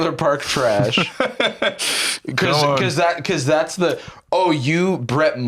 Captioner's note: laughs